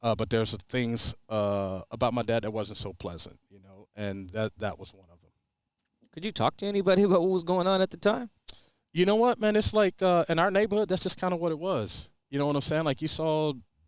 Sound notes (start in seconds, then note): none